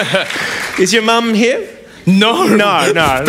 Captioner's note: laughs